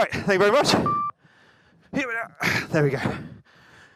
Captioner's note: beep; sighs